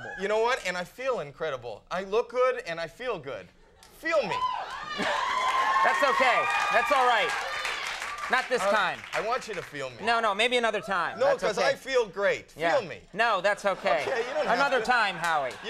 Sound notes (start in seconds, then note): 4.8 audience cheering